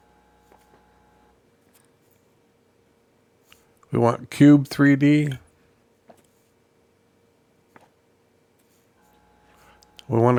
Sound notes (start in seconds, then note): 0.6 silence